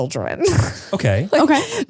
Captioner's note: laughs